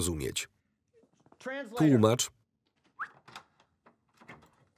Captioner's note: whistles